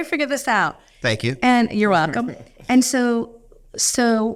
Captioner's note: laughing